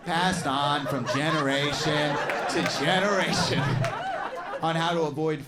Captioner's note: audience laughs